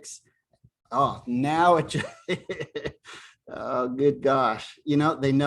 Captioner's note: laughter